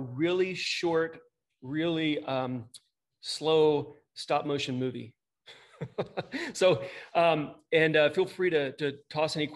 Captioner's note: laughter